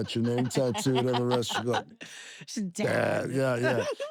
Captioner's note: laugh